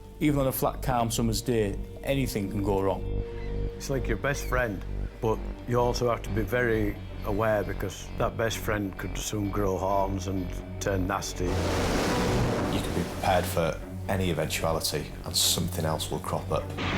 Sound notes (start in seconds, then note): 11.4 intense music; 11.4 water splashes